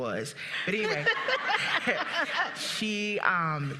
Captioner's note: audience and participants laughing